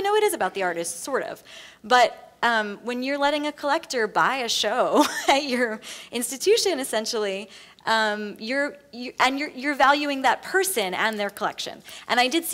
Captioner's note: laughs